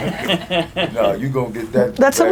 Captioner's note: laughs